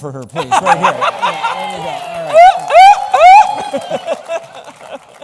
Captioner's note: laughter